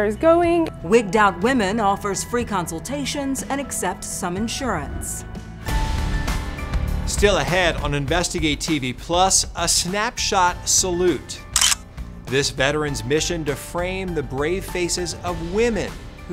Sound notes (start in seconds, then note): 5.0 gentle lively music; 11.5 camera clicking